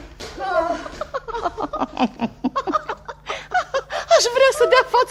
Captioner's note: the women laugh